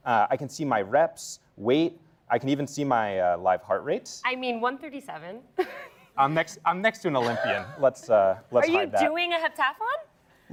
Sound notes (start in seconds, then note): 5.6 laughs